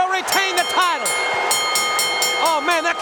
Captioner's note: bell ringing